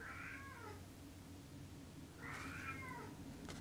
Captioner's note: cat meows